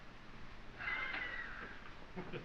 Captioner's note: laughing